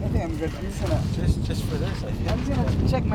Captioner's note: laughing loudly; murmurs